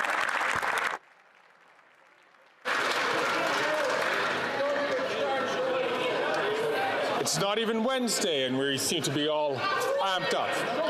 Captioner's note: some Applause